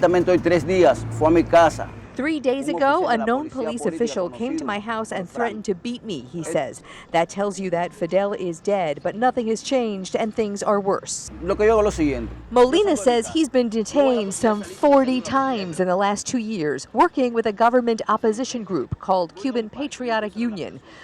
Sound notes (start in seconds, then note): 8.8 speaking spanish